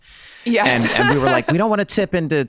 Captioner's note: laughing